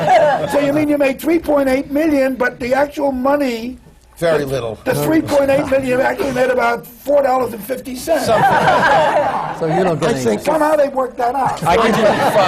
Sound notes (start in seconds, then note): 0.0 laughter; 4.4 murmurs to him